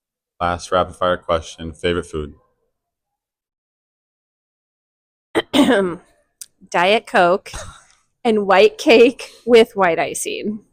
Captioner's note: clears throat